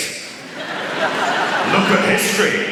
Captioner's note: laughter